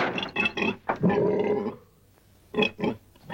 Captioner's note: pig snorts